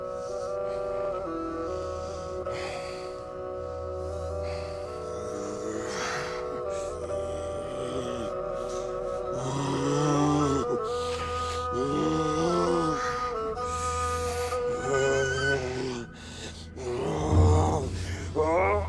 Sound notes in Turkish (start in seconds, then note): 8.1 Acı çekerek nefes alma